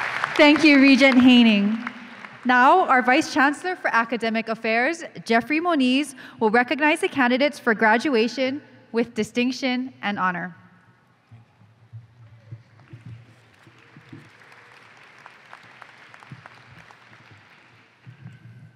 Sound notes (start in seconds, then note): 15.1 applause